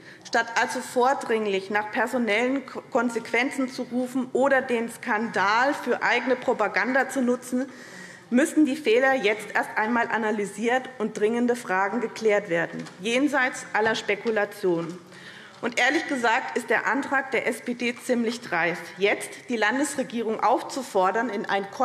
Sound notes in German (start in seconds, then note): none